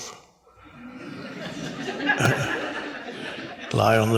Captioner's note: audience laughs